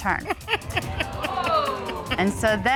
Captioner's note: Judge Dana Laughs